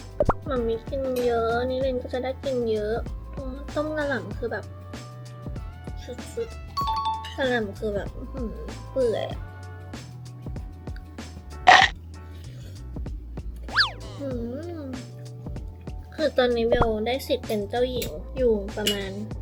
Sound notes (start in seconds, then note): 13.1 mmm